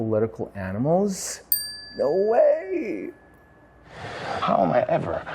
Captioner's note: bell dings